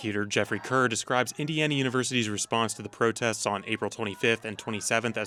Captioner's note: crowd chanting